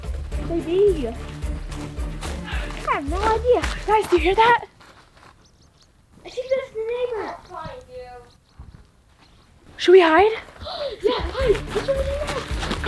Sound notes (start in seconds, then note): 0.0 upbeat music; 4.9 birds chirping